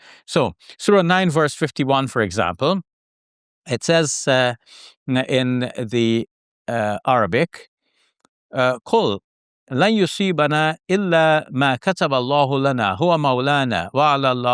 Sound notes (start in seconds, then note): 7.8 speaks Arabic